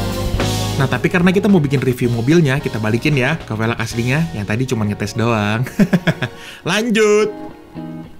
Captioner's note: laughing